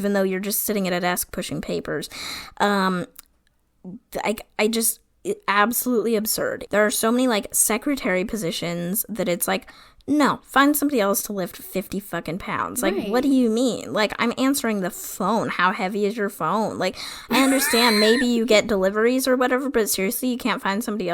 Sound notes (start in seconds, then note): 17.3 laughs